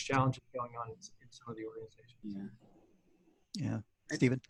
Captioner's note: murmurs